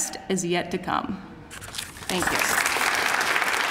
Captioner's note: applause